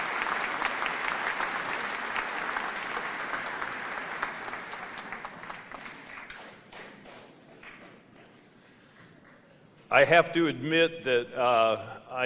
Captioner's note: applause